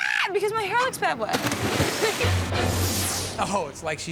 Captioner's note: splashing water